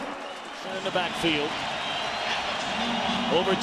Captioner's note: crowd cheering